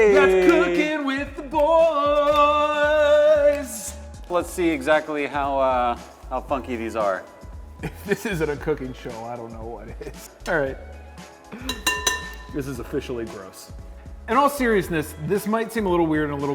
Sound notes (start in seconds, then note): 7.8 chuckles; 11.6 glass chinks